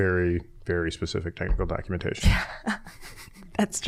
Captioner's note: laughing